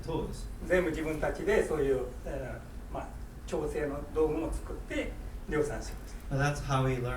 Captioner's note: speaking in foreign language